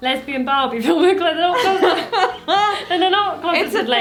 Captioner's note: laughing